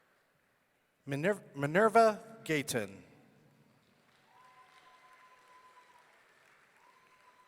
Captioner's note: audience cheering